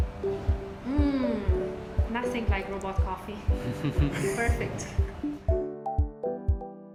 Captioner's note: laughter